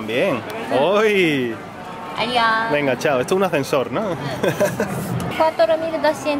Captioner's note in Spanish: risas